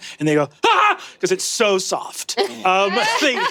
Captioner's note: screams